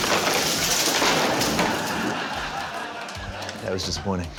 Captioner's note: laughter